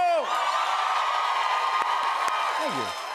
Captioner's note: cheers and applause